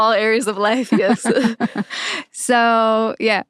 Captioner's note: laughing